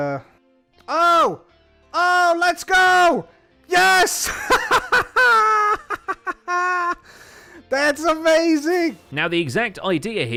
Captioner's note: victorious laughter